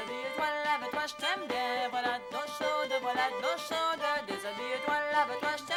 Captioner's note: acadian French